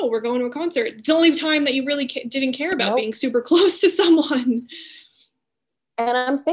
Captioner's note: laughing